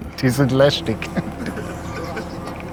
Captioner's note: giggles